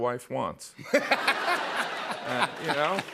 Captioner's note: laughter